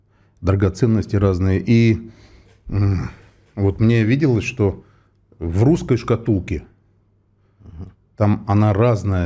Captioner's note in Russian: откашливается